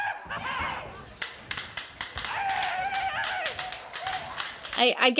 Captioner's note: prop guns popping